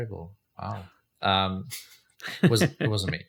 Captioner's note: laughs